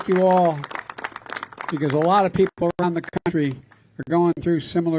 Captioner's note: applause